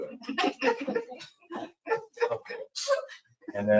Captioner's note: people laughing